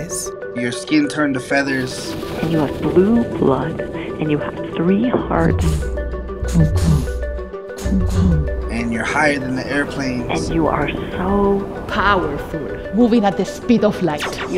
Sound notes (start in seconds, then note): 1.3 echoing feathers; 4.2 3 hearts pound 3 times in unison